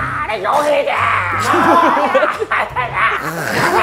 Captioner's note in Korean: '까르르' 웃는다